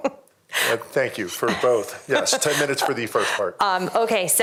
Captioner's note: laughter